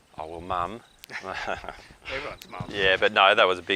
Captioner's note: laughter